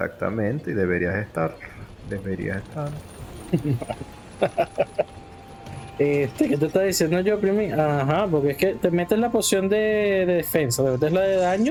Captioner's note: laughs